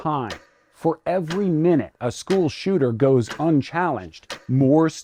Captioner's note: clock ticking